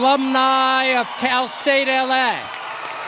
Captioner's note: cheers and applause